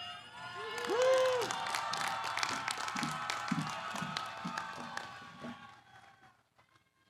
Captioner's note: applause